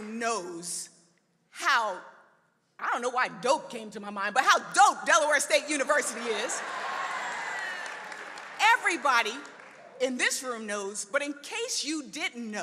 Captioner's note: applause